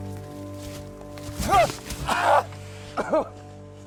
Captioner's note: Jack screams; coughs